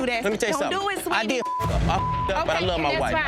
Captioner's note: beep